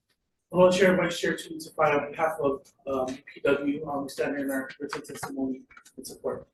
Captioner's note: faintly speaking